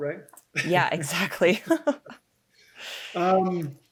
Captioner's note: laughing